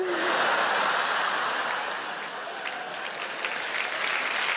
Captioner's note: audience applauds